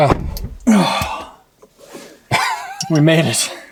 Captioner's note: grunting; laughing